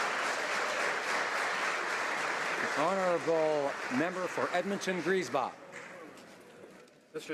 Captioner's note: applause